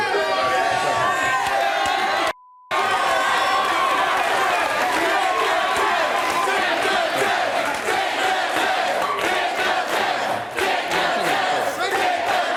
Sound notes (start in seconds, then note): 0.1 audience cheering; 3.8 audience chanting